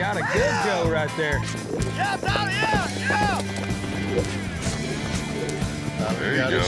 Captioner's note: hoofbeats, shouting